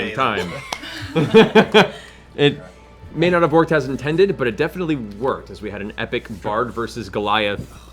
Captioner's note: laughs